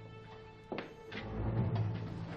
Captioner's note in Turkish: Tıkırtı sesleri